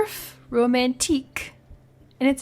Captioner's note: fancy accent